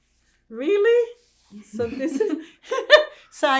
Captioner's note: laughing